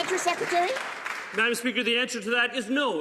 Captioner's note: some Applause